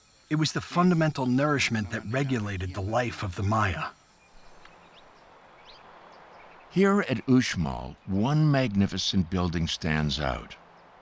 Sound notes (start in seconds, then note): 4.5 birds chirping